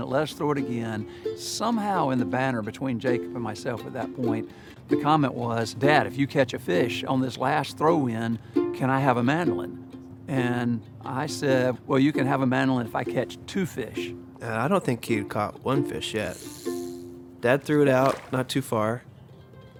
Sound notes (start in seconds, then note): 18.0 line whizzes; 19.6 expectant mandolin music